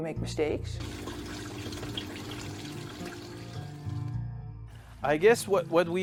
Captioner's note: water pump buzzing; water rushing